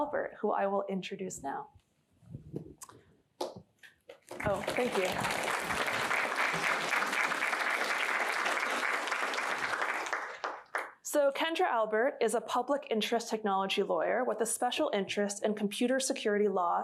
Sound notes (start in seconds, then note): 4.3 applause